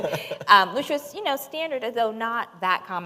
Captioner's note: laughter